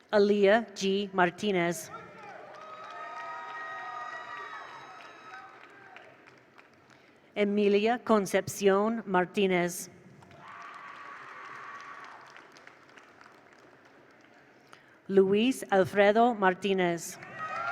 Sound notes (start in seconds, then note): 1.9 attendees cheer; 2.0 attendees applaud; 10.3 attendees applaud; 10.4 attendees cheer; 17.2 attendees cheer; 17.3 attendees applaud